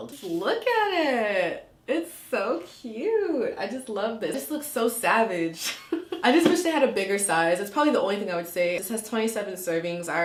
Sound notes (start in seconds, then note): 5.8 laughing